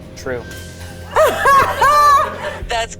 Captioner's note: laughing